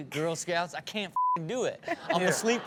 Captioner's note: beep; audience laughs